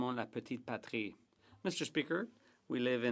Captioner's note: speaking French